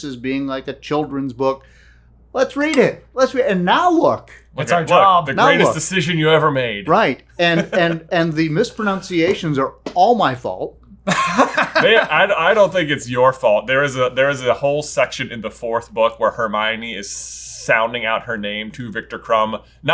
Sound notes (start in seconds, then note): 11.0 laughing